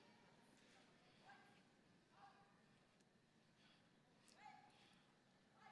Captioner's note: person yelling commands